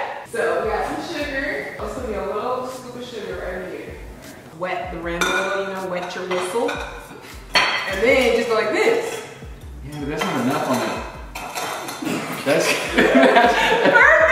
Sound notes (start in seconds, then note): 9.9 glass scraping